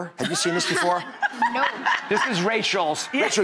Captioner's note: laughing